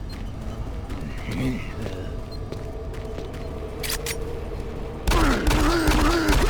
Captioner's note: gunshots